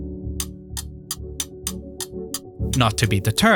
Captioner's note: spoon clacking